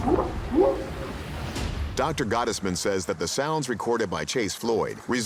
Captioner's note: whooping sound